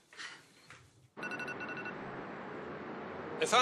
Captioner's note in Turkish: Telefon çalıyor